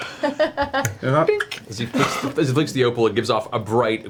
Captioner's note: crack, dink; laughs